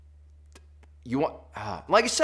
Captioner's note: sighs